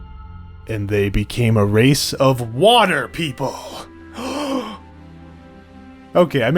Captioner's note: gasp